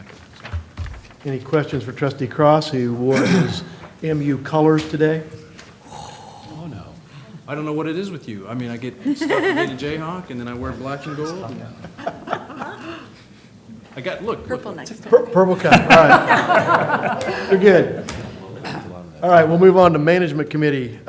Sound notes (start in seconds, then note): 15.4 laughter